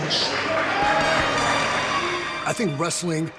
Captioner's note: people clapping